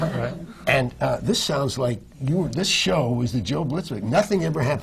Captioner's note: laughter